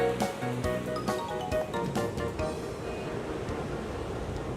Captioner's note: ocean waves crashing